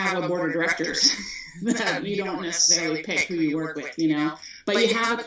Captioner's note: chukles